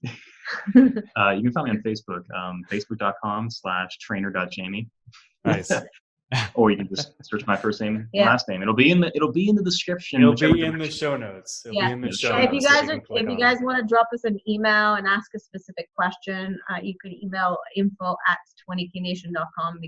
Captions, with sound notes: (both laughing) - You can find me on Facebook: Facebook.com/trainer.Jamie. - Nice! (laughs) - Or you can just search my first name and last name. It'll be in the description. - It'll be in the show notes. It'll be in the show notes coming up. - If you guys wanna drop us an email and ask a specific question, you could email info@20KNation.com